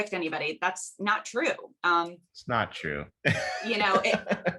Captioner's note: laughs